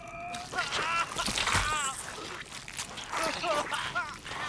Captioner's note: men groaning; creature slurping